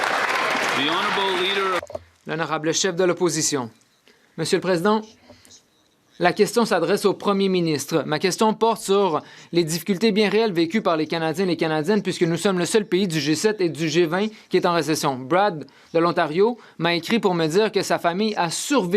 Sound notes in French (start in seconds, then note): 8.9 voix de l'interprète